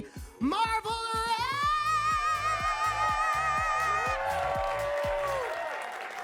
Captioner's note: attendees cheer and clap